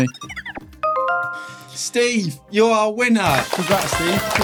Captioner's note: phone chiming